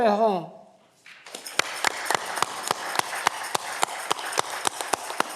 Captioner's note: audience clapping